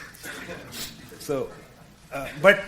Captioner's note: audience laughing